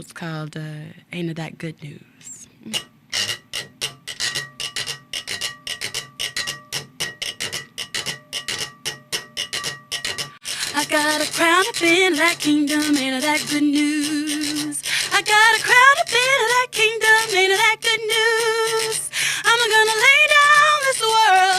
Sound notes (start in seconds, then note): 3.7 tapping